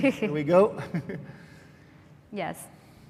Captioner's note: laughs; laughs